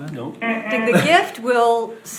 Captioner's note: imitating buzzer